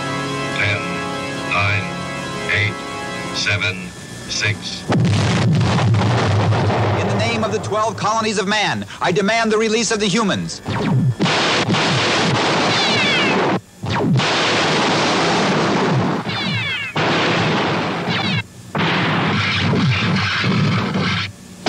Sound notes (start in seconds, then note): 12.4 laser gun fires